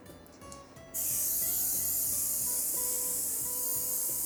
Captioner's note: spraying